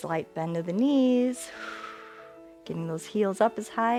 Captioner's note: exhales